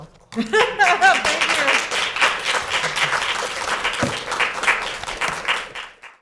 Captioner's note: laughs; students clapping